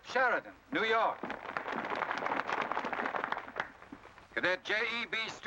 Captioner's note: crowd applause